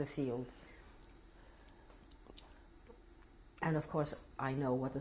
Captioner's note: pauses for 3 seconds